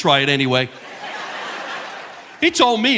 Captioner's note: audience laughing